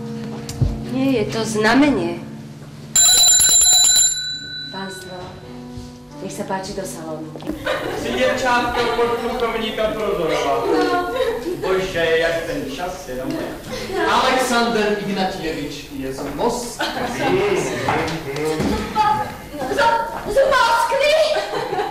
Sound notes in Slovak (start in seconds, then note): 2.9 zvuk zvončeka; 7.5 smiech